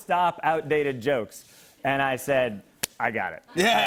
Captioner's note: laughter